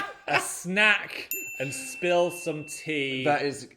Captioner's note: laughing; bell dinging